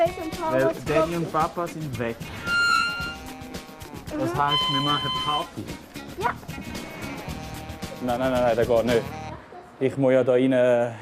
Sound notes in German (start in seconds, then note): none